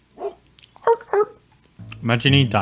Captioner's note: barking